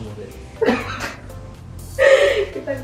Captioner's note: laugh